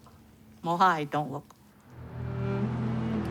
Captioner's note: speaks Chinese